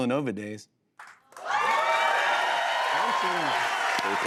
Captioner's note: cheers and applause